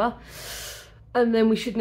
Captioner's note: inhales through teeth